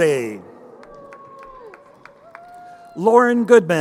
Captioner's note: crowd cheering